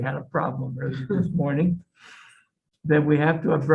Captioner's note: person laughs